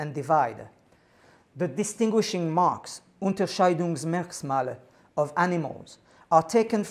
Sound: speaking german

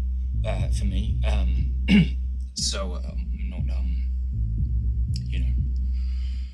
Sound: clears throat

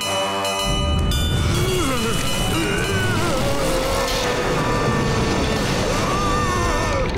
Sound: dinging; moaning

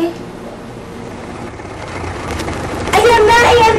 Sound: vehicle rumbling

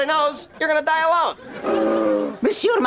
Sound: gasping

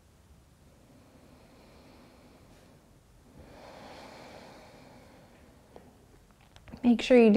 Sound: breathing

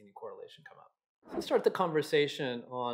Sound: air whooshes

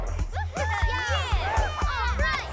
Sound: laughter and cheering

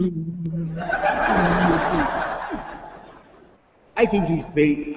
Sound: laughter

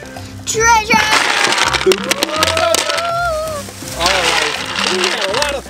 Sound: coos

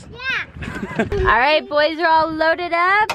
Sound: laughs

